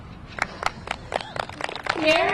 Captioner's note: crowd applauding